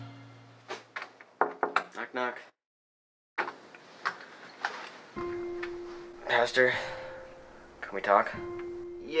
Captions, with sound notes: (soft knocking) - Knock knock. Pastor, can we talk?